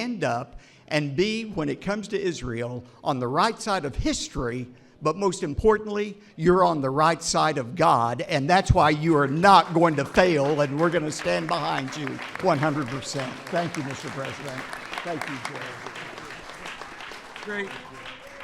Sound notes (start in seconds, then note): 13.3 applause